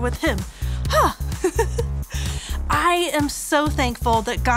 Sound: gasps

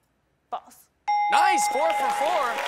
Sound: ding!

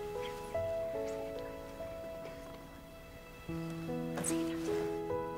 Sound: Grace whispering

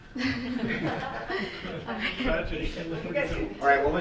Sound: laughing

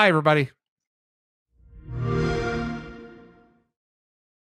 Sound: xbox logo chime

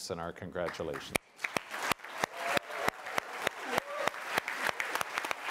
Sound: applause

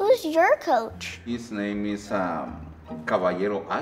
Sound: speaking foreign language

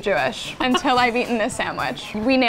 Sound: laughing

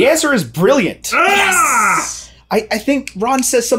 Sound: groaning

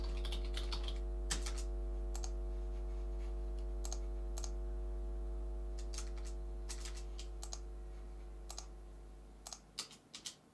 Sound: mouse clicking, feedback

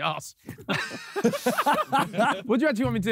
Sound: all laughing

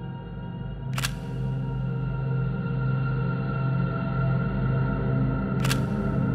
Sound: camera shutter clicking

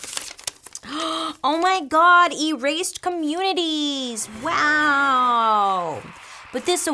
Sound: paper rustles; gasps

